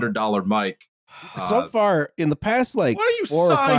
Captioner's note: sighs